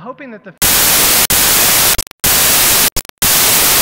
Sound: static

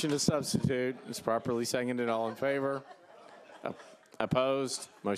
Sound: laughter

